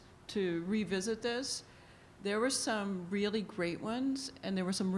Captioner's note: none